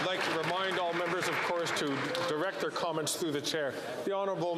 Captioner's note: some Applause